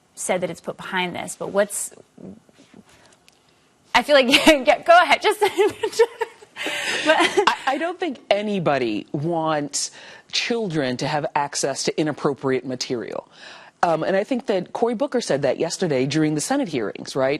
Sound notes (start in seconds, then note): 5.4 laughter